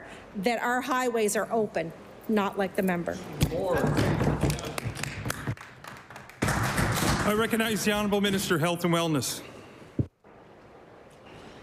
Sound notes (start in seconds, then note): 7.9 applause